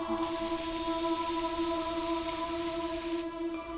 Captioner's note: rain falling; soft music